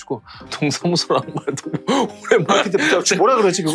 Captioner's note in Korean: 웃으며